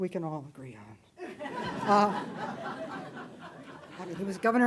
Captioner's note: audience laughing